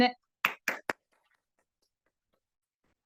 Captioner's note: applause